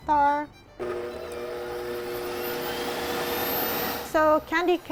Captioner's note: blender running